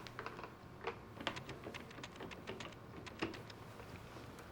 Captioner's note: dialing